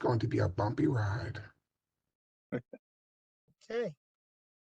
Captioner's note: laughter